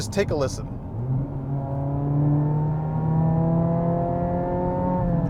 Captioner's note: engine revving